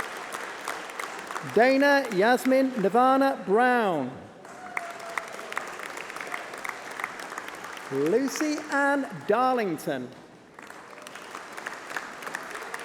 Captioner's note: applause